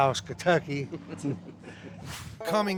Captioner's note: both laugh